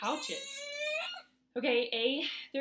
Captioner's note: baby grunting